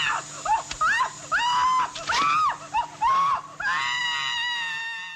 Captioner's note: woman screams